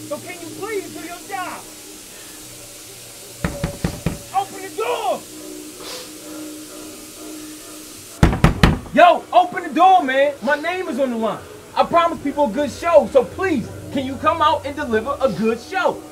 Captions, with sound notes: so can you please do your job! [KNOCKS ON DOOR] OPEN THE DOOR! [KNOCKS ON DOOR] YO OPEN THE DOOR MAN MY NAME IS ON THE LINE I promised people a good show so please. Can you come out and deliver a good show!?